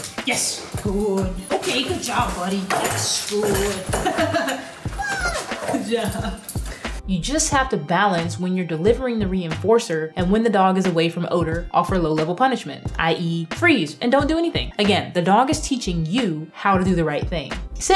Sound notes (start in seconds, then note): 3.7 laughing